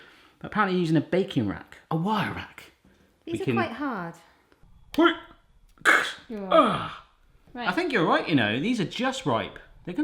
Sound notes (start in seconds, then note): 4.8 crunches; 4.8 grunts